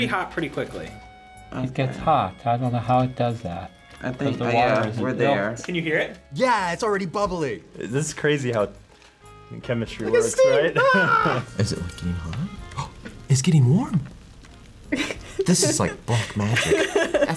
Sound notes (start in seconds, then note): 12.7 gasps; 14.9 laughs